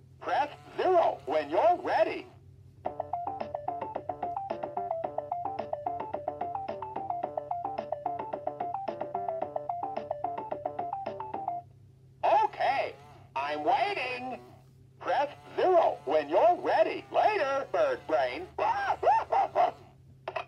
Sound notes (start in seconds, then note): 2.8 funky music playing; 18.1 laughs